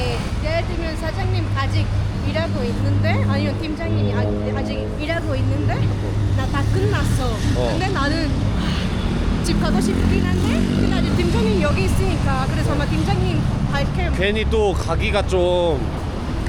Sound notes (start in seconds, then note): 8.6 sigh